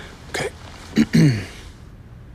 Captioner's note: clears throat